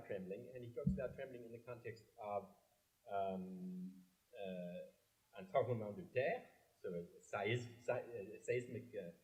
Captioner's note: french